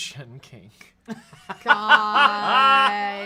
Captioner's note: off-camera laughs